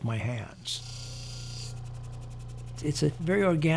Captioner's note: machine whirring